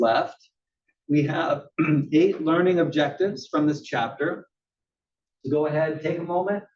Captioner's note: cough